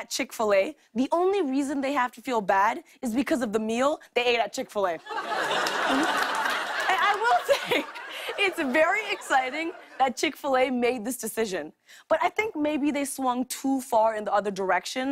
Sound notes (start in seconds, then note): 5.0 laughter